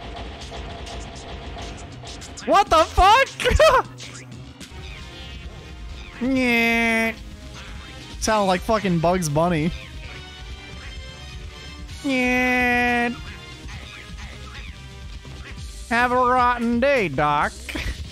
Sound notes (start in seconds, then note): 3.3 laugh